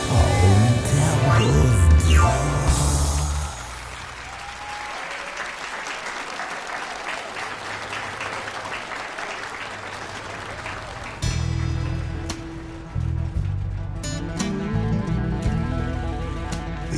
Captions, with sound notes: * Old devil at the door (AUDIENCE APPLAUDING)